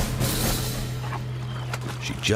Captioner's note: chomps on carcass